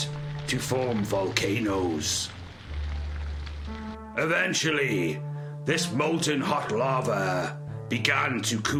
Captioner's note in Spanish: Sonido chisporroteante